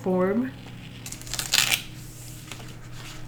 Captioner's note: masking tape crinkles